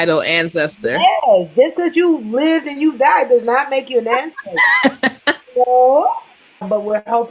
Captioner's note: laughter